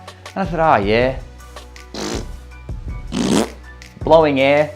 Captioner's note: blows raspberries